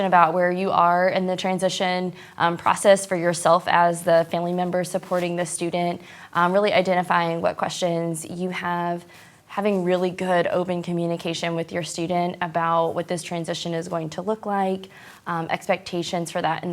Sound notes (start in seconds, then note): none